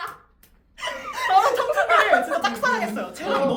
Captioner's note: laughter